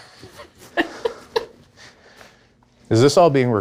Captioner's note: laughing